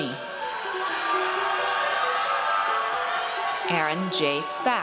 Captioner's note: audience cheers